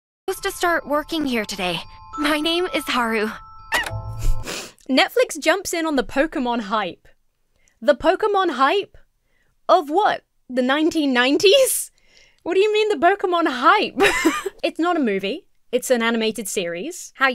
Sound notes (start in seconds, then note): 3.7 Pokémon squeaks; 4.2 chuckles; 14.0 laughs